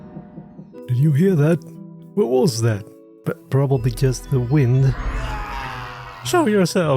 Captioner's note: nervously